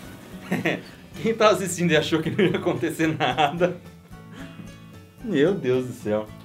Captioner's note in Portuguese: risos